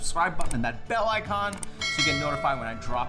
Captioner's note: bell rings